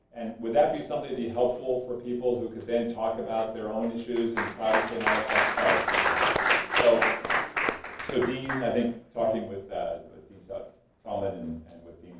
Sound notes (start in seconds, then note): 4.1 applause